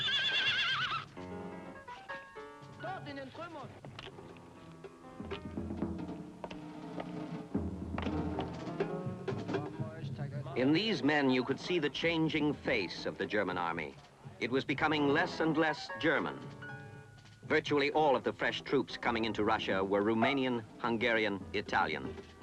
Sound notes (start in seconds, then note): 3.4 man speaks in German; 3.4 suspenseful music